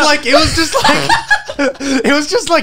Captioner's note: laughs